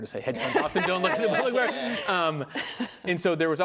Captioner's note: laughing